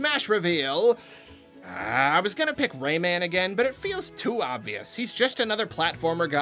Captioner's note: annoyed growl